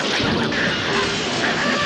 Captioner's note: barking viciously